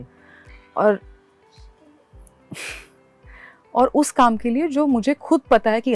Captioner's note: chuckles